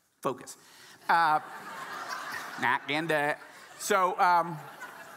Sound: audience laughing

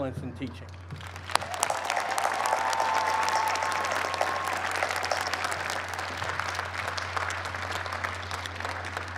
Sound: cheers and applause

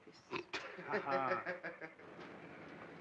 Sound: villains laughing; city street sounds

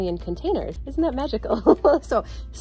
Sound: laughs

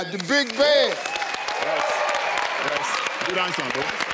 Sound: cheering

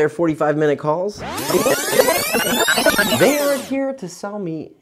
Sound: video rewinding

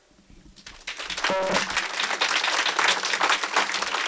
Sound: applause

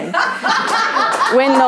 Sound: audience laughing

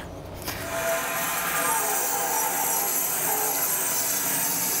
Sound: saw blade humming

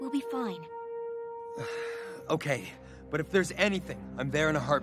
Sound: sighing

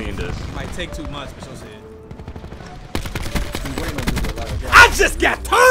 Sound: chattering

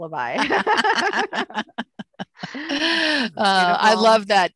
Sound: laughter

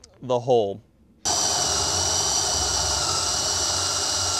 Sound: drilling

